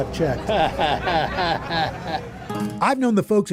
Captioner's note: chuckles